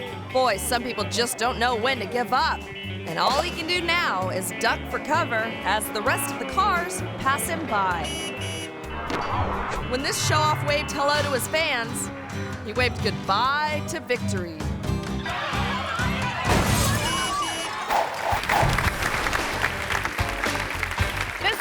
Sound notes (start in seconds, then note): 15.2 tires squealing; 16.2 car crashes; 16.8 car honking; 17.1 audience applauding